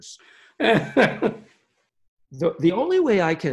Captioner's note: chuckling